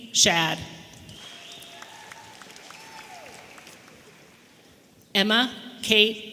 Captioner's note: audience applauding and cheering